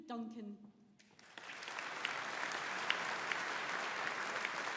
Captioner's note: audience applauding